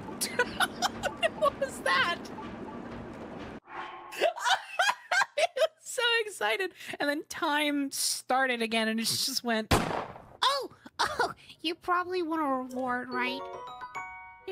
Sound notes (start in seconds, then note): 0.2 laughter; 4.2 laughter; 9.7 gunshot